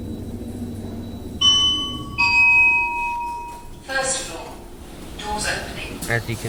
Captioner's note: ding dong!